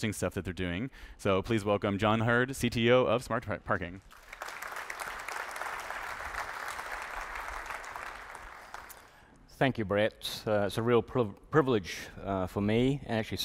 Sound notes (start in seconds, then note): 4.0 applause